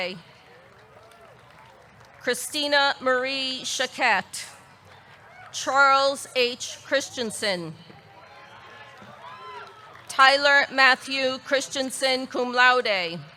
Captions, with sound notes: Christina Marie Choquette. Charles H. Christensen (audience cheering) Tyler Matthew Christiansen, cum laude.